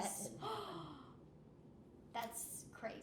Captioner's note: gasps